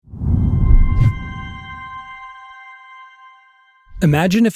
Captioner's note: text whooshes; gentle music